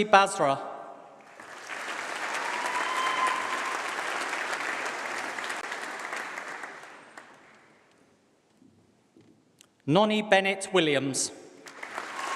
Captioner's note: applause; applause